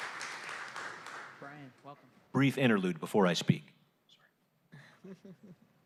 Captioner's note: applause